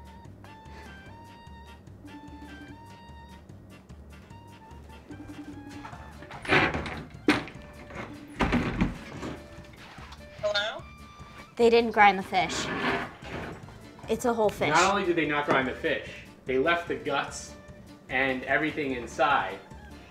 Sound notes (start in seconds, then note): 0.2 phone ringing; 0.2 quiet upbeat music; 5.6 clattering of furniture; 6.5 quiet upbeat music